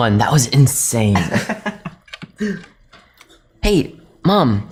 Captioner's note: Martin laughing